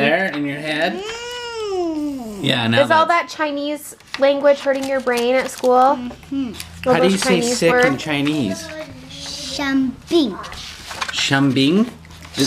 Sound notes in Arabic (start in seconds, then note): 1.0 يئن